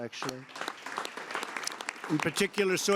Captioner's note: applause